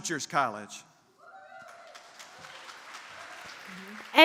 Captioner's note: applause